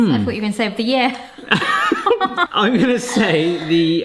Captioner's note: both laughing